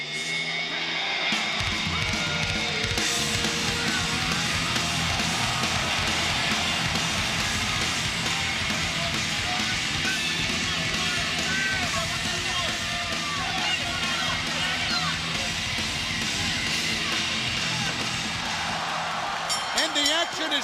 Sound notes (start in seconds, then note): 3.7 crowd cheering; 4.9 crowd chatter